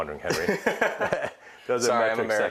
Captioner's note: laughing